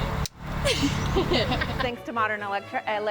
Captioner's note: students laughing; clapboard clicking